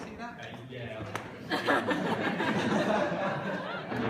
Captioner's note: laughter